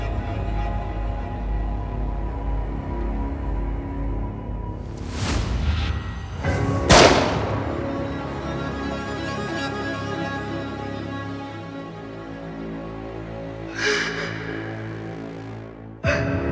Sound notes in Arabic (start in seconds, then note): 6.8 صوت البندقية